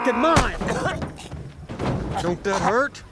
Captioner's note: choking